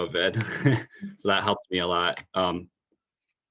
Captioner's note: laugh